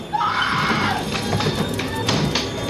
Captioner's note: screams